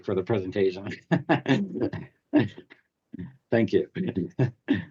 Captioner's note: laughs